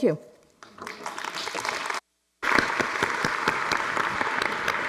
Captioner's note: audience applauds